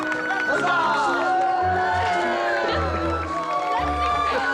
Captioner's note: cheering